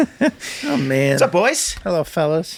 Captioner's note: laughs